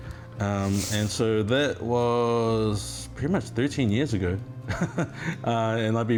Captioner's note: laughs